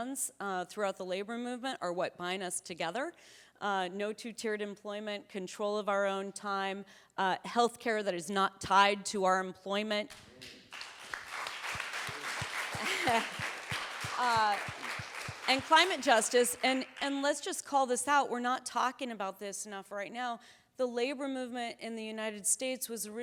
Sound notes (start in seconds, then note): 10.1 audience applauding; 12.1 chuckles